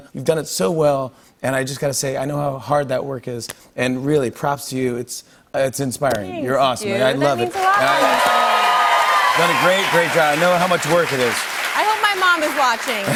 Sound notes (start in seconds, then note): 7.4 cheers and applause